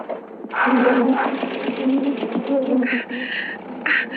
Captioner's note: engine rumbling